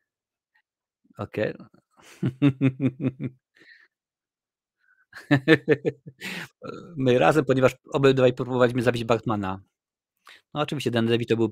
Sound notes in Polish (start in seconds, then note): 2.0 śmiech